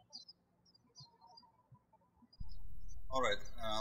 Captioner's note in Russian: птички щебечут